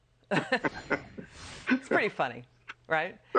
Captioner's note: laughter